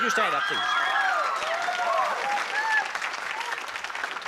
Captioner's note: applause